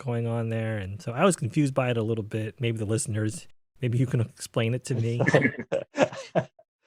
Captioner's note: laughing